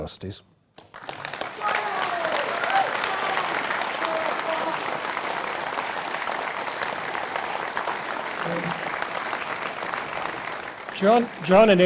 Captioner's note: applause